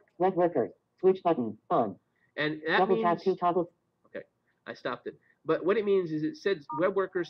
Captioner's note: Siri talking